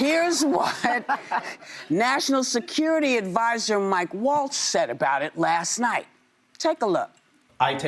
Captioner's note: laughter